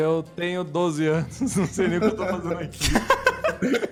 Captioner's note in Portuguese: Risadas